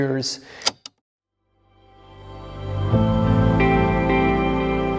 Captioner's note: typewriter clicking; slow lighthearted guitar music